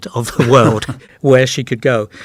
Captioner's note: laughs